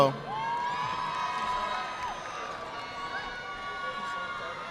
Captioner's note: audience clapping